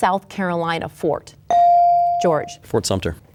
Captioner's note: bell dings